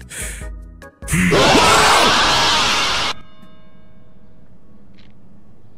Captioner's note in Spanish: ruido masivo y bat jumpscare